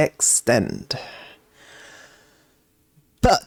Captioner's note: silence for effect